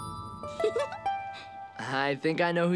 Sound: giggling

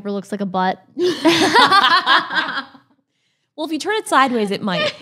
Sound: both laugh

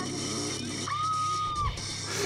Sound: ahhhhhhh; laughs

